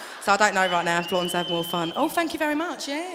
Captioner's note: whistle from the audience